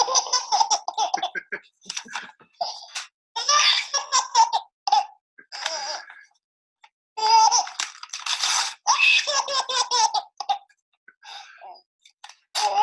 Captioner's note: adult with a deep voice starts to laugh; more tearing and laughter ensues